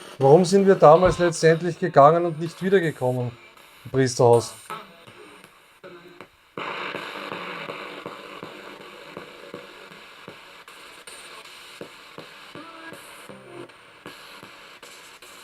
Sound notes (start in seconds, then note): 5.4 sound of the Spirit Box in the background